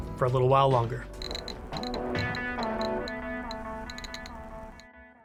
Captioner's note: counter clicks